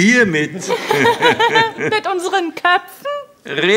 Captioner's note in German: lacht